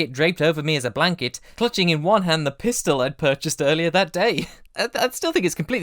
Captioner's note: laughs